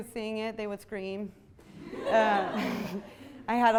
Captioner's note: audience laughs